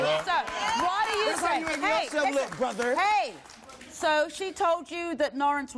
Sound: applause

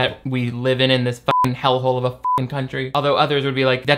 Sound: beep; beep

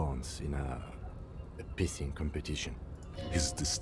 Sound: pissing

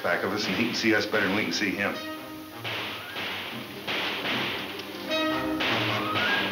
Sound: dramatic music; guns banging

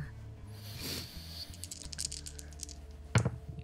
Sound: dice rolling

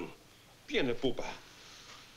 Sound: italian

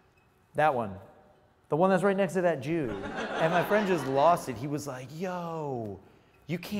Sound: laughs

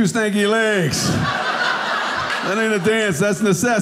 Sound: audience laughing

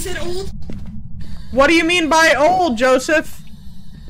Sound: static continues like normal

